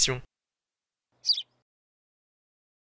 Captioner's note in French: chant d’oiseau